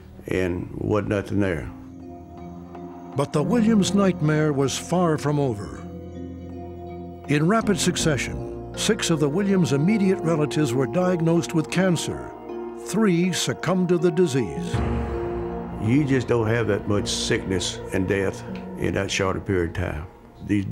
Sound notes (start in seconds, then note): none